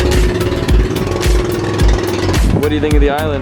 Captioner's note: boat revving